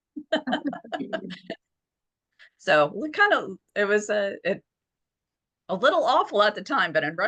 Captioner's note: laughter